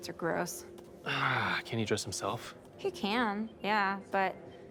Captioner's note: sighs